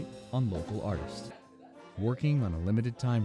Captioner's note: murmuring